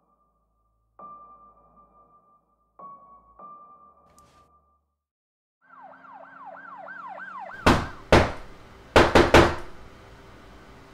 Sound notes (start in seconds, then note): 5.6 police sirens; 7.6 a knock on the door